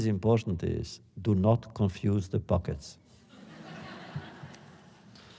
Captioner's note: laughter